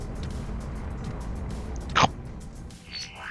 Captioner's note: chomp noise